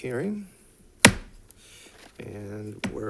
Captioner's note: gavel thuds